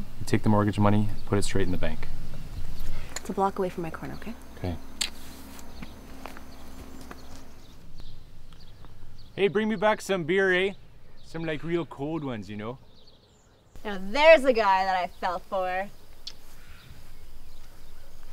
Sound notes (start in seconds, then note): none